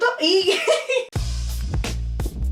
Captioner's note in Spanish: risas